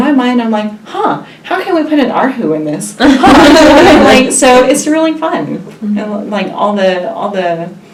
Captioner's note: all laugh